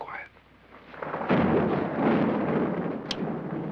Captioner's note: thunder crashing